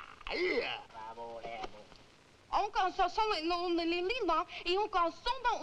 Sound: people speaking in foreign language

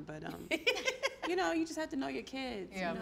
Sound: laughing

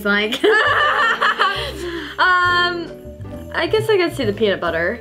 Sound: both laugh

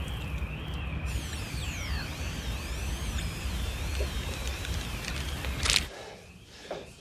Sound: static noise

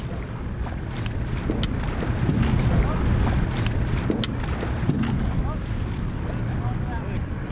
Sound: humming boat motors, talking

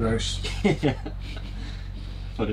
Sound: chuckles

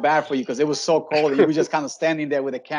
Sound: laughing

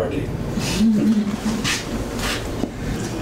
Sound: FRANCINE chuckles

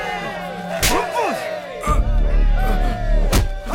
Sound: Malay Language; slaps

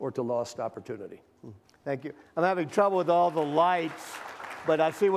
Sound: applause

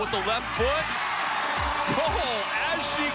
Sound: cheering

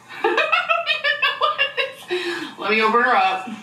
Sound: laughing

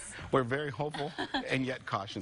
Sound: chuckling

